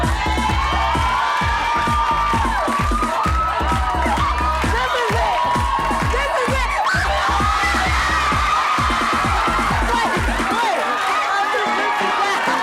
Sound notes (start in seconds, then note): 0.2 audience cheers; 6.9 screams; 7.7 audience cheers